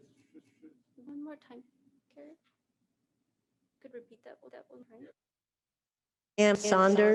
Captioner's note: faint Voice